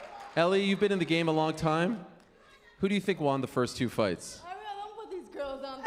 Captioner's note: cheers and applause